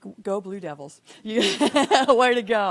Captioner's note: laughing